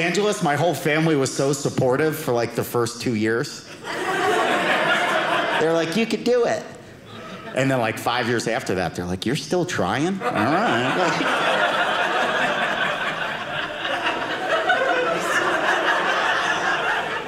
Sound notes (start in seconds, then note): 3.7 audience laughing; 10.2 audience laughing